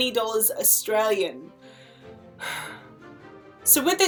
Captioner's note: panicked sigh